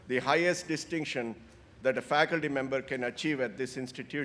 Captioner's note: none